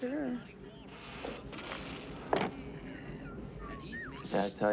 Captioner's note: wind howling